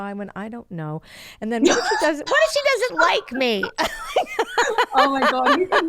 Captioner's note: laughs